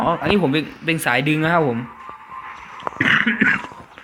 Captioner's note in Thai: ไอ